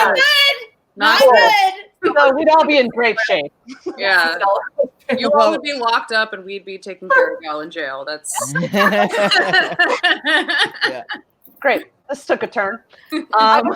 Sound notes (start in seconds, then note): 3.0 laughs; 10.1 all laugh